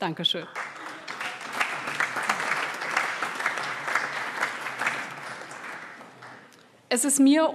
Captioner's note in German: Allgemeiner Beifall